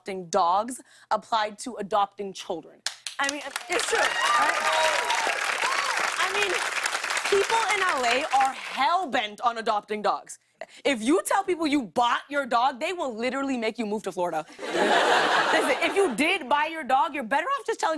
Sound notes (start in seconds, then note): 3.2 cheers and applause; 14.5 laughter